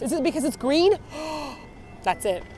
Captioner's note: gasp